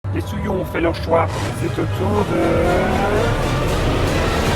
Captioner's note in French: Voix trafiquée